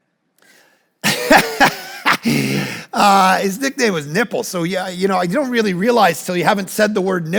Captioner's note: laughs